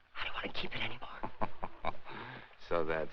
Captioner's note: chuckles